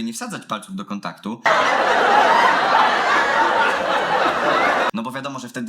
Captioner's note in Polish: ponownie nagrany śmiech